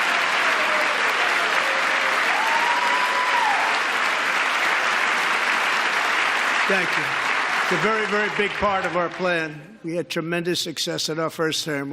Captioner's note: applause